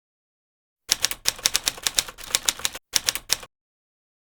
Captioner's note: typewriter sounds